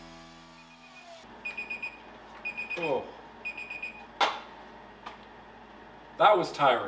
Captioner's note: beeping